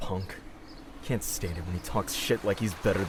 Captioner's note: none